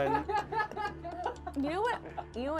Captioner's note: group laughs